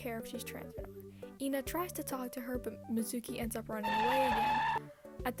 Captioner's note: faint tire screech